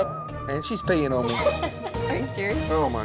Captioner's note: laughing